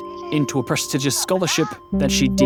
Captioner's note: in mandarin